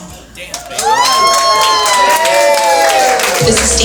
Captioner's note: applause